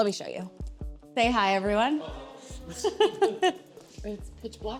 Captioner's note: laughs